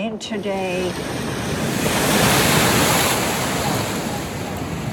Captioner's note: waves crashing